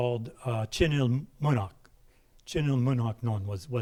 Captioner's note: speaking in a foreign language